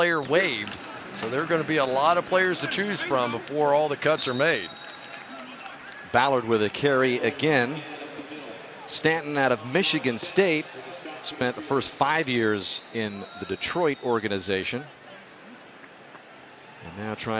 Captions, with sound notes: on any player waived. So they're going to be a lot of players to choose from before all the cuts are made. [whistle] Ballard with a carry again. [pa announcement] Stanton out of Michigan State, spent the first 5 years in the Detroit organization,